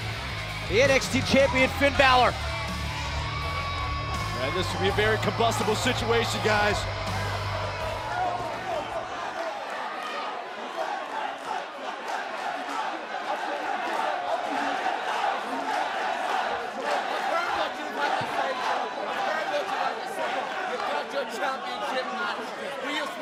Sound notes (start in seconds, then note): 12.3 fans chanting